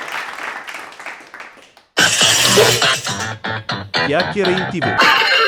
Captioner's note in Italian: Applauso